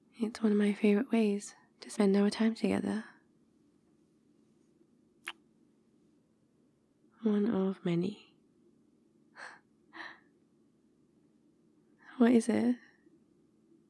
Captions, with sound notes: it's one of my favourite ways to spend our time together *kiss* one of many... what is it?